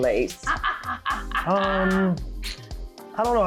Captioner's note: laughing